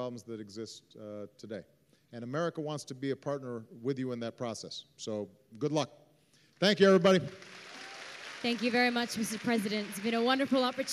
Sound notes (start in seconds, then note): 6.7 applause